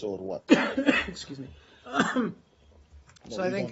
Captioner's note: coughing